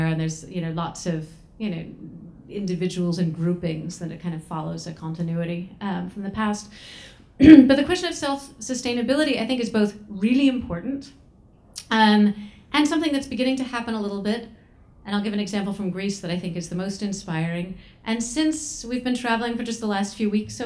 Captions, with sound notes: and there's lots of individuals and groupings that it kind of follows that continuity from the past. (throat clearing) But the question of self-sustainability I think is both really important and something that's beginning to happen a little bit. And I'll give an example from Greece that I think is the most inspiring. And since we've been traveling for just the last few weeks